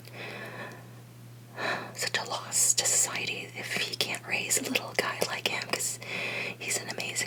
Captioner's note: exhale